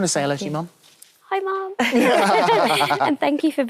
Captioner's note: all laugh